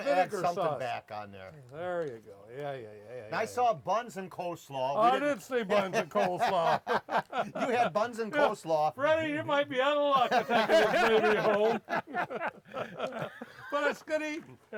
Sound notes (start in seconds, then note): 5.0 laughs; 10.2 laughs